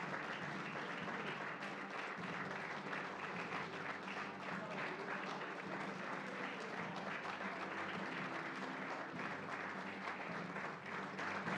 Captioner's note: applause